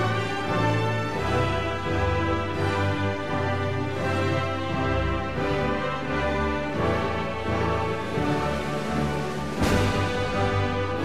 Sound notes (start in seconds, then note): none